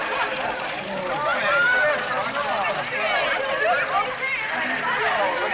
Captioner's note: crowd chatters